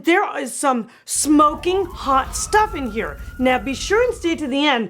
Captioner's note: fire engine siren howls